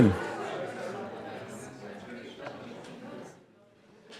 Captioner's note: group chattering